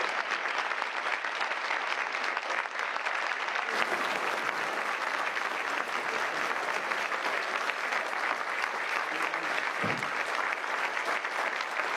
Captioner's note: cheers and applause